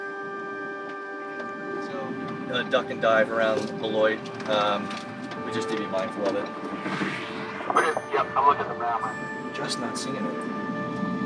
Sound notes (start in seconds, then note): 7.7 man On Radio